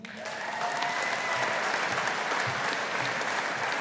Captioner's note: audience applauding